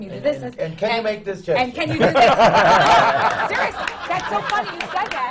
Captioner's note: laughter